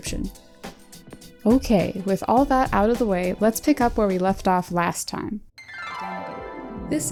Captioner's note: flashback noises